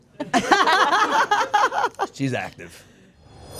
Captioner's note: group laughing